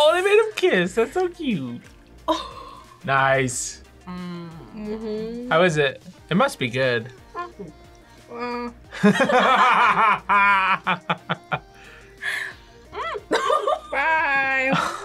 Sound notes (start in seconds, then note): 2.3 laughs; 8.9 both laugh